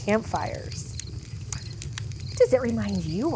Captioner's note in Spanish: crepitar el fuego; canto de los pájaros